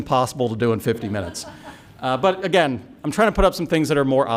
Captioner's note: laughter